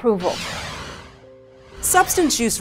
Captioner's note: air swooshing